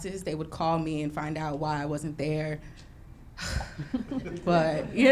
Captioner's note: sighs